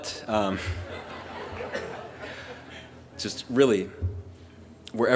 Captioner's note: laughter